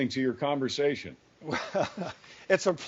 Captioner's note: male host laughs